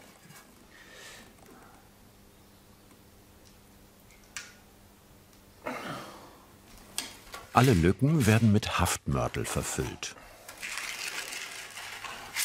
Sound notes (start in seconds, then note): 0.7 he takes a deep breath; 5.8 he exhales heavily